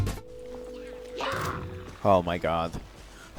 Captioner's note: Hilichurl out of sight screams